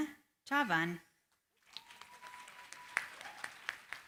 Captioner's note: applause